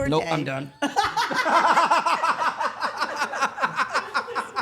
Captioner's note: all laughing